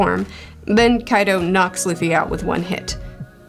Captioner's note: bonk